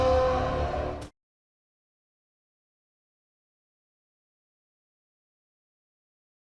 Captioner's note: howling